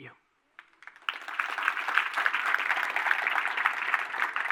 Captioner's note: audience applauding